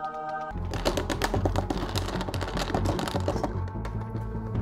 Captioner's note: angelic singing; hitting table